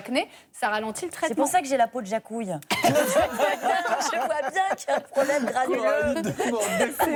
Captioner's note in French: rires